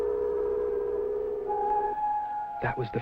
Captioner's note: siren wailing